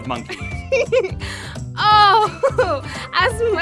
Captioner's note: laughing